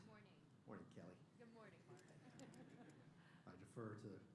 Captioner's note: laughter